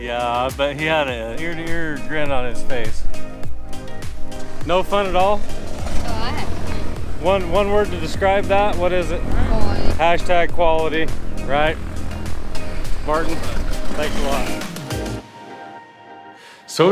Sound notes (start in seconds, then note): 3.2 plane whizzing; 3.2 soft music; 15.4 soft music